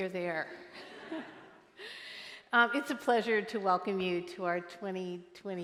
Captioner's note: laughter